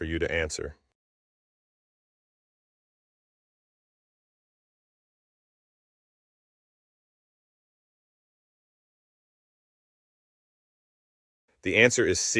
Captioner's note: no audio